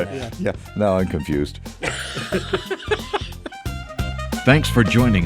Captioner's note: hosts laughing